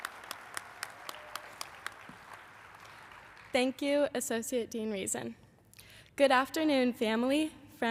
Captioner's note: applause